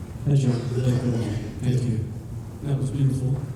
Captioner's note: voiceover; speech warbling on mic